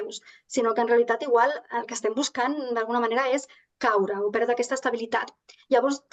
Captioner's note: continues speaking in Catalan